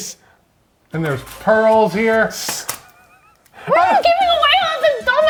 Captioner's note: shushing